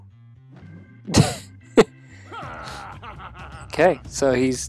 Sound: player laughs

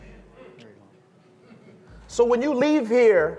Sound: speaking faintly

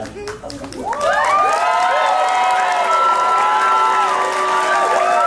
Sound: clapping and cheering

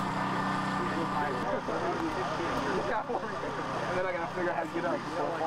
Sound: background chatter

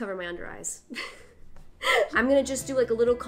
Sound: laughing

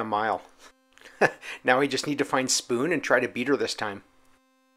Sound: laughs

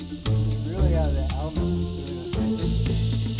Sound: chatter

